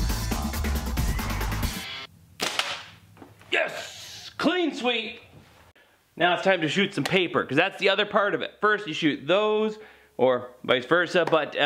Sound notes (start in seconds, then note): 2.4 thwack